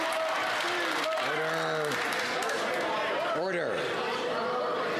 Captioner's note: some Applause